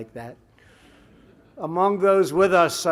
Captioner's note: laughter